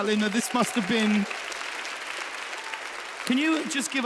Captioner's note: audience applauds